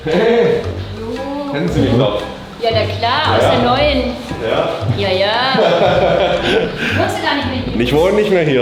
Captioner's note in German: gelächter